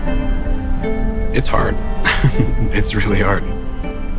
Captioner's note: laughs